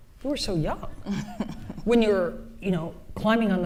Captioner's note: laughs